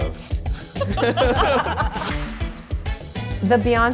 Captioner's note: stylists laugh